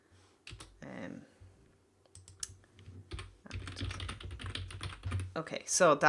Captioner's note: typing sound